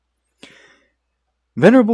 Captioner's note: inhales uvula